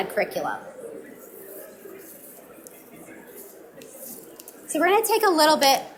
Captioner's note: audience mumbling